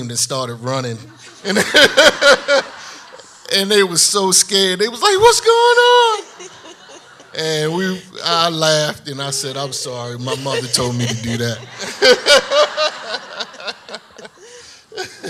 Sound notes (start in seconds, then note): 1.2 laughing; 6.8 audience laughs; 12.4 laughing